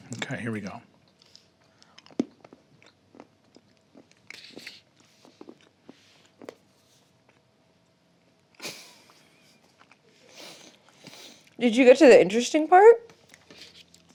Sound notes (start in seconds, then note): 8.6 chuckles